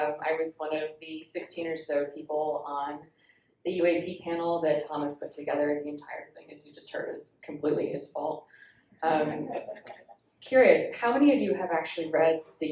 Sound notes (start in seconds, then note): 9.2 audience laughs